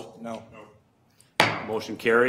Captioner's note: multiple voices; gavel bangs